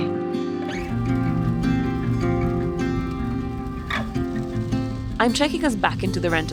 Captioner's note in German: Energische Musik; Regen prasselt; Scheibenwischer sausen